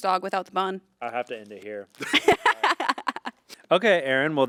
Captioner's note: laughing